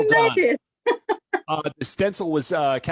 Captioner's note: laughs